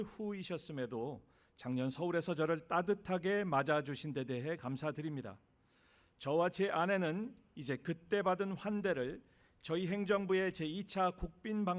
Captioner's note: speaking non-english